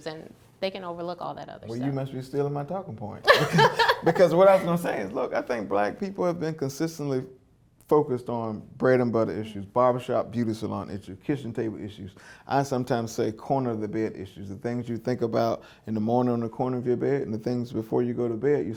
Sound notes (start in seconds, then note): 3.2 laughs